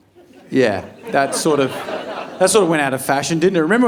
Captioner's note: audience laughing